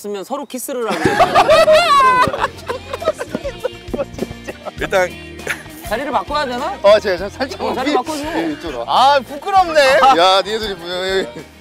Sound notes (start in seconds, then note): 3.0 laughing